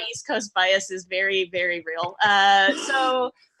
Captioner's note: chuckles